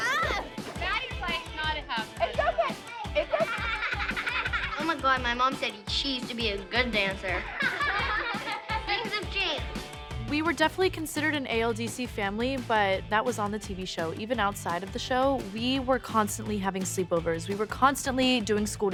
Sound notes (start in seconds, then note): 6.8 girls laughing